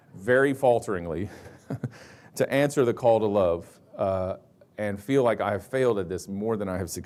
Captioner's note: chuckles